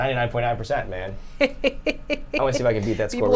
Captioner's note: chuckles